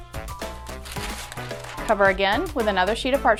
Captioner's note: parchment paper crinkling